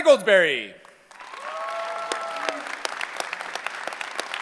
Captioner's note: cheering